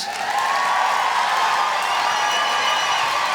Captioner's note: applause